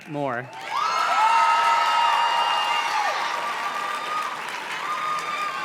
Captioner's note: audience cheers and claps